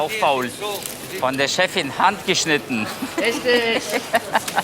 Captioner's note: laughs